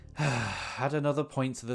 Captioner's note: sigh